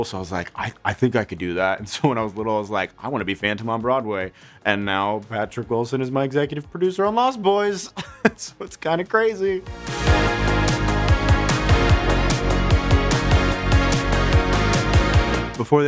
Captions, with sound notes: So I was like, "I think I could do that." And so when I was little, I was like, "I wanna be Phantom on Broadway." And now Patrick Wilson is my executive producer on "Lost Boys." (laughs) So it's kind of crazy. (upbeat music)